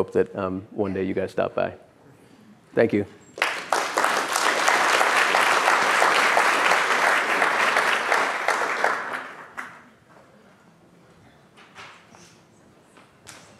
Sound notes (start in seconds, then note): 3.3 applause